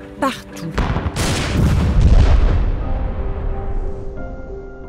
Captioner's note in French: détonation